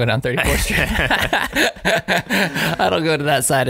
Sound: laughing

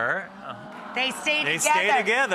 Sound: crowd goes "ah"

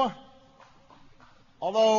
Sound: applause

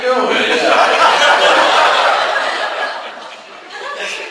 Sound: class laughs

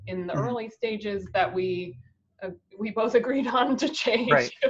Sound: laughing

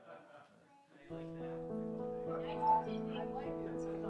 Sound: quiet music; family chattering

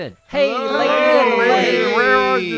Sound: everybody yells

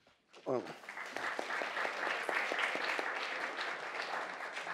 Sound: audience applauds

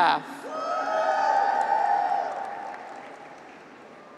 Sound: graduates cheer

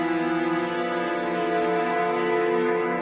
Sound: none

